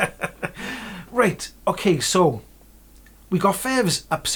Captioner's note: laughs